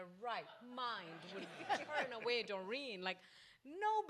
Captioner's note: audience laughs